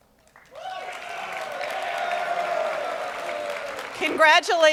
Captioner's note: audience cheering